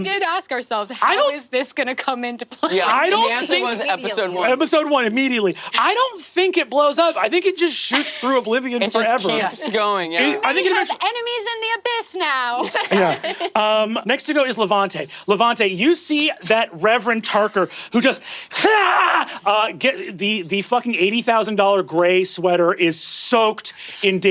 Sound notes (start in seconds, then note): 19.3 shouting